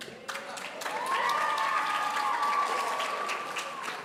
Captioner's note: audience cheering